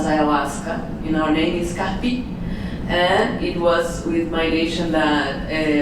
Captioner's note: non english speach